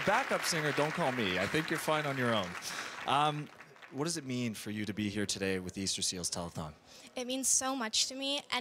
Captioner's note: applause